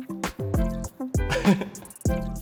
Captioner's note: laughs